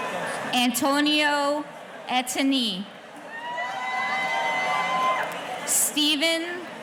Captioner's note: audience cheering